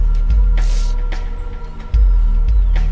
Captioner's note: sniff